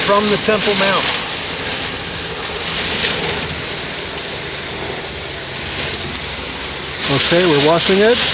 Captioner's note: water splashing